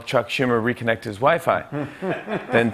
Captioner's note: laughter